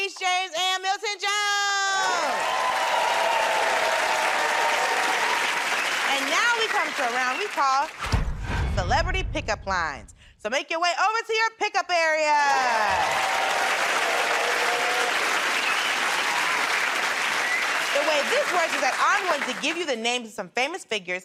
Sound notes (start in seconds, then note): 3.7 cheers and applause; 16.6 cheers and applause